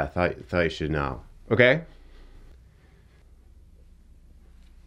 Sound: hand smacking; clothes rustling

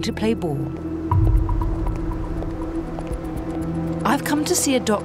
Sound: heels clack

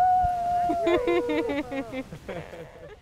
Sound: woman cheering; laughs

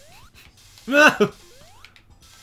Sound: scream

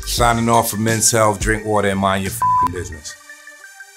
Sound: beeps; dynamic music

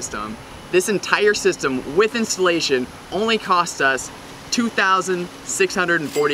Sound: cash register ding

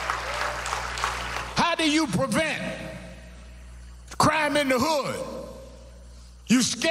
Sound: applause

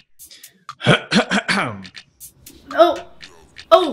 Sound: clears his throat

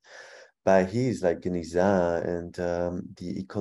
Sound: speaking in foreign language

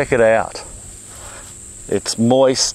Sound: soil rasping

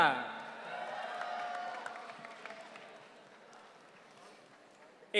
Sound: audience cheering

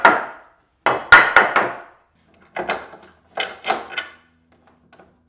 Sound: hammering wood into place

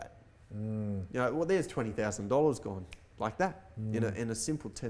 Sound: snaps fingers

